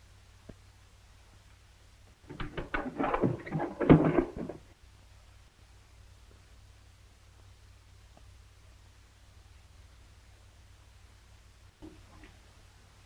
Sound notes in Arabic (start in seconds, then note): 2.4 صوت قعقعة الجذع